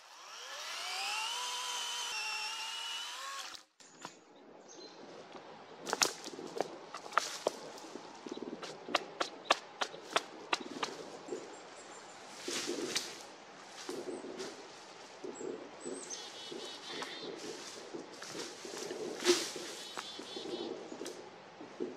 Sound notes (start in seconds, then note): 0.0 chainsaw running; 3.8 chickadees, branches cracking